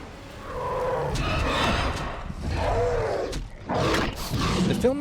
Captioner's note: spinosaurus and T-Rex growling